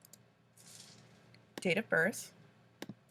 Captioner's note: click